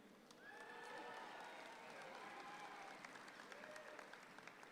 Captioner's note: audience claps